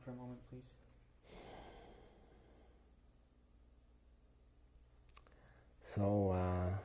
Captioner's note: sighs